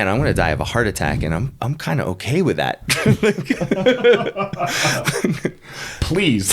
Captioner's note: both laughing